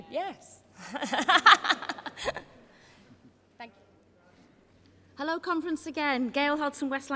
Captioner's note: laughter